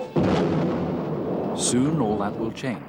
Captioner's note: explodes